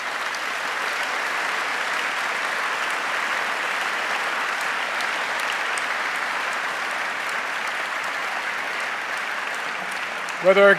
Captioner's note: applause